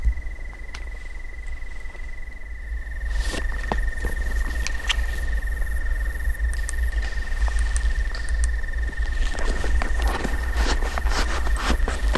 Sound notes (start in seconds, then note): 5.4 branches breaking in the timber